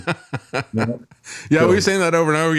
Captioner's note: laughing